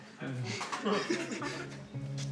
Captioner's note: laughter